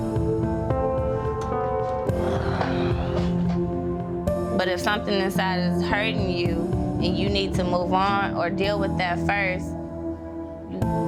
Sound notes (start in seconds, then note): 0.2 somber music continues; 2.1 sighing